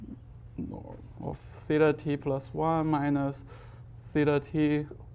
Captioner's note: faintly speaking